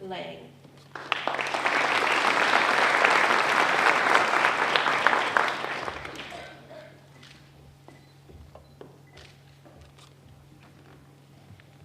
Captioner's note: applause